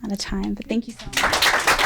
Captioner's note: applause